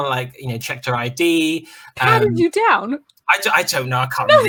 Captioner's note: laughter